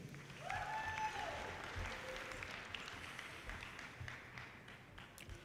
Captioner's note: audience cheers and applause